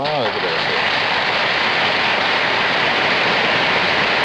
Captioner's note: audience applauding